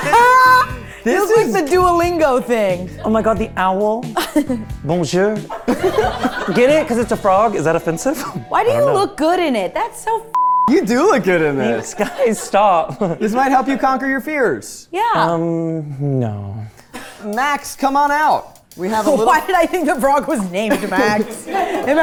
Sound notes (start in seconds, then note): 5.6 everyone laughing